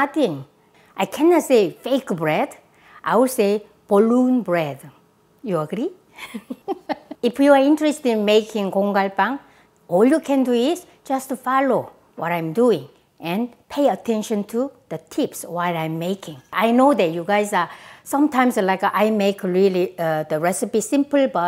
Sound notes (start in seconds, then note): 6.2 laughs